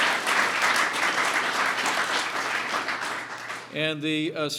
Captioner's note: applause